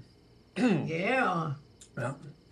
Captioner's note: clears throat